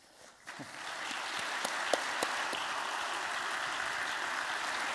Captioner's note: applause